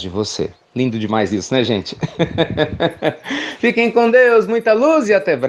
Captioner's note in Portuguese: Risos